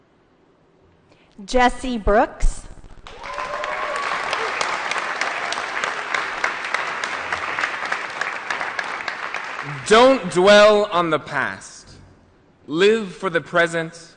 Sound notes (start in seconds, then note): 3.0 applause & Cheering